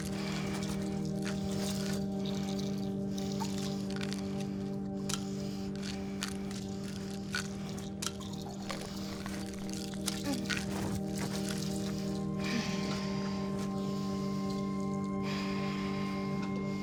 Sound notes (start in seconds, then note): 0.1 pills rattling over quietly ominous electronic music; 12.4 Ashley sighing